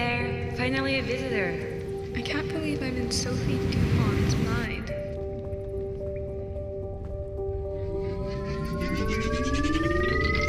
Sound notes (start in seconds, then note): none